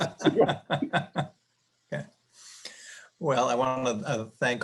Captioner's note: panelists laughing